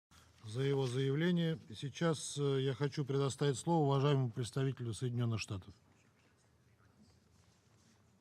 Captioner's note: in Russian